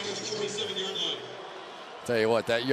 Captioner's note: pa announcement